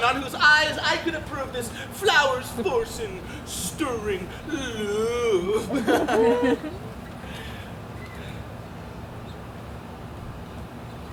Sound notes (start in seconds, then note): 5.7 laughs